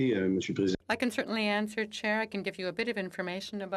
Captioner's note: speaking FRENCH